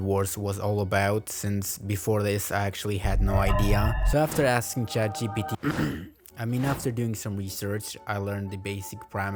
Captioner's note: ehem